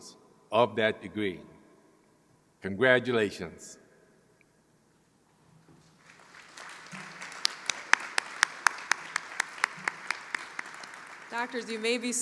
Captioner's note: applause